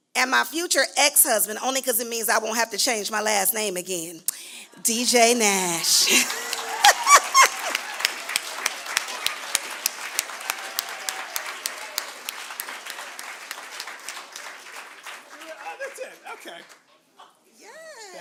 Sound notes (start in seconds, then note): 5.9 laughs; 7.5 applause